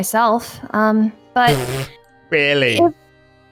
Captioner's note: laughs